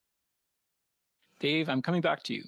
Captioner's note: speaking French